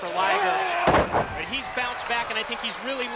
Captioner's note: mat thumping